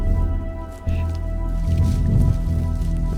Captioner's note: camera shuffles